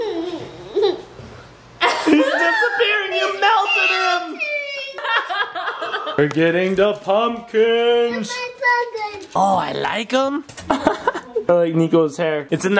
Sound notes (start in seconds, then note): 0.0 giggling; 4.9 laughter